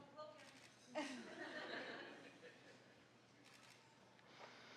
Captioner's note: audience laughing